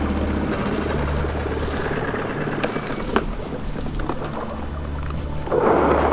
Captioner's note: outboard motor clatters and stops; boat scraping